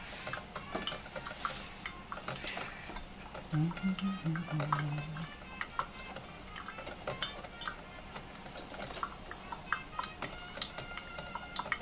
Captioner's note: sound of coffee brewing